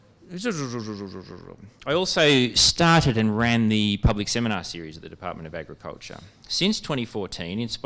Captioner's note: laughter